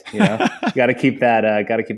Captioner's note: laughs